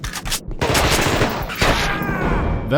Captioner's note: rapid gunfire